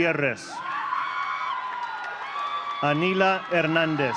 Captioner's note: audience cheering